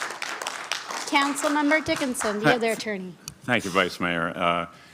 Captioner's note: applause